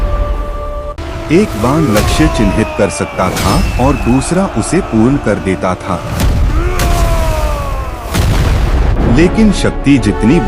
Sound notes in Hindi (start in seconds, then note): 6.4 चीखने की आवाज़; 6.4 कराहने की आवाज़